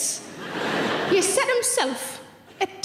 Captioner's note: audience laughs